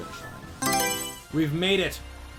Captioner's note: Mario Selection Sound